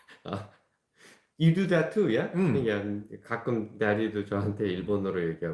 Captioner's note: speaking in Japanese to me